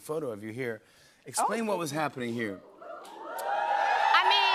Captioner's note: audience cheering